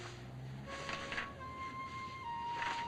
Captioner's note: melancholy music; pages rustling